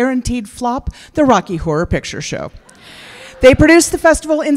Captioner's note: laughter